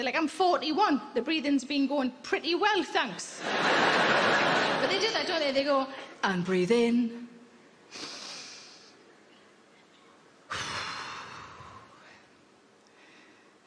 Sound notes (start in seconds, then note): 3.4 audience laughing; 7.9 inhales; 10.5 Sarah exhales